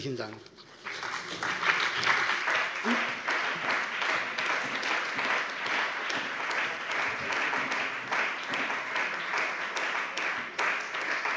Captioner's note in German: Beifall bei der CDU und dem BÜNDNIS 90/DIE GRÜNEN